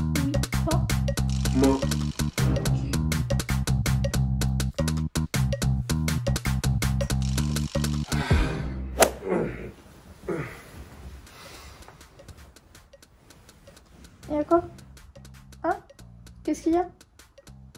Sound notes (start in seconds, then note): 9.1 sighs; 9.1 moaning